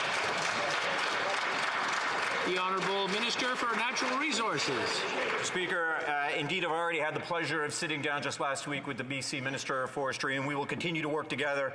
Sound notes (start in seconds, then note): 4.4 some Applause